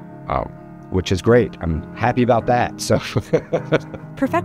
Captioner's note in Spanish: laugh